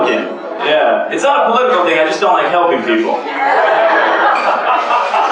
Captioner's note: laughter